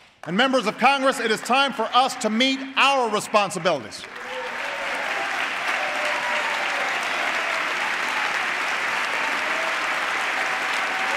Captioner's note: applause